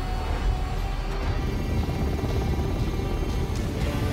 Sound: blades whirring

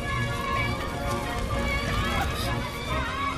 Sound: clamoring

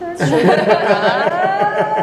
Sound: everyone laughs

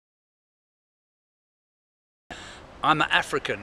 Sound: pause

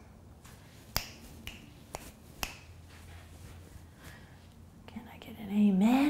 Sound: snapping fingers

